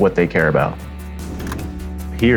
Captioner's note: Slide projector click